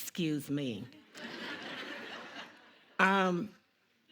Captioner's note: audience laughing